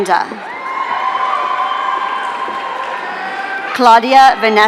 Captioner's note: audience cheering